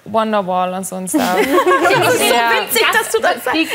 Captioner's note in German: Lachen